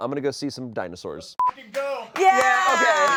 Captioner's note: beep